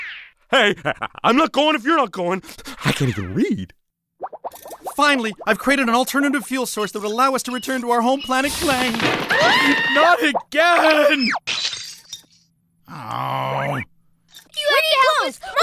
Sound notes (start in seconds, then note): 8.6 screaming; 11.5 shattering